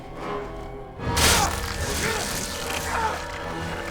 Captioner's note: enraged grunts